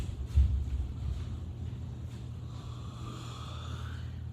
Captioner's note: yawns